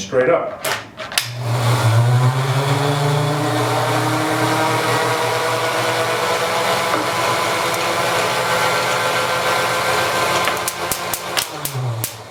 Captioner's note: whirring